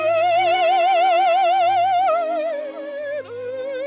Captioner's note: none